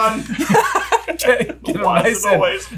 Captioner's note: all laughing